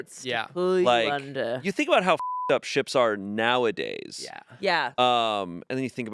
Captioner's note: beep